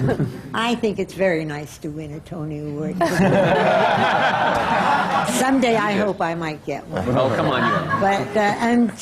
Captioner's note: laughter from the panel; laughter